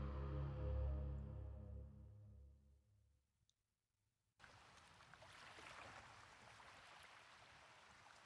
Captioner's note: water Splashing